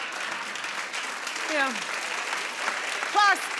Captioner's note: applauding